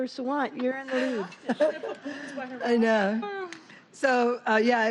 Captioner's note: laughter